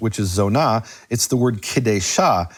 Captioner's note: speaks in foreign language